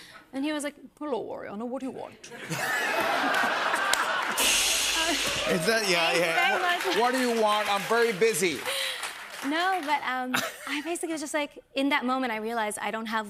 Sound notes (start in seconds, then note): 2.3 laughter; 4.3 cymbal crash